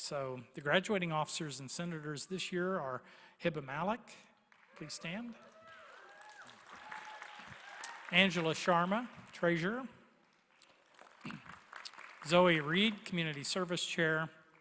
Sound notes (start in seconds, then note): 4.4 applause